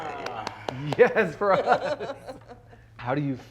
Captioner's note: both laughing